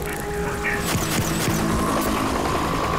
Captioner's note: helicopter flies overhead